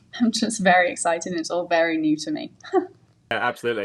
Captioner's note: laughs